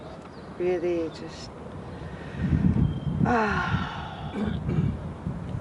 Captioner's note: sighs